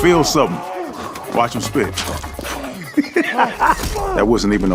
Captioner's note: laughs